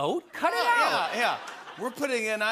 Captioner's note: laughter